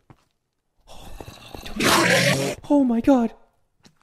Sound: Enderman Screams

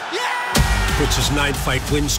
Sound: Dvalishvili yelling

